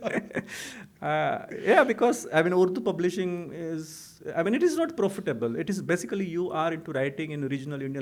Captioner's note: laughter